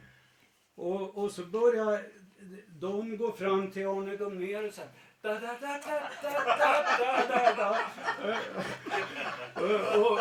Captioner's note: laughter